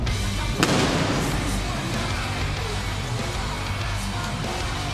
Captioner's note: intense music; singer vocalizing; pyrotechnics bang